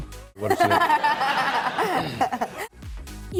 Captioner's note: laughing